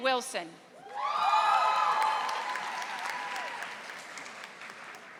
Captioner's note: audience applauding